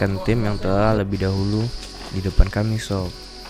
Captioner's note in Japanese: 嗚咽